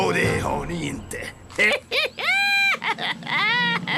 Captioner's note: laughs